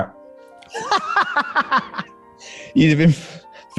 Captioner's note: laughing